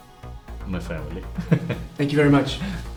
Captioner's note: laughs